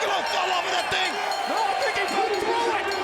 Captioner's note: bell dinging